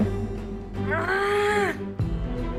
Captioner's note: disgusted sound